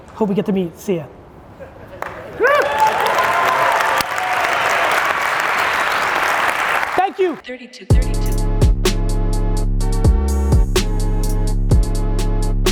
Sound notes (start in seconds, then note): 1.9 audience applauds; 7.6 hip hop beat